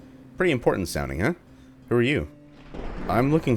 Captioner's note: thunder